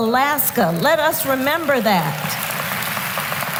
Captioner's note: applause